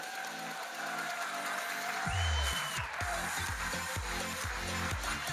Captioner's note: audience cheering and applauding